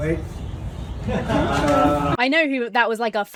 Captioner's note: onlookers chuckling